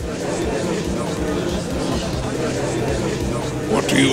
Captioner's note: gallery chattering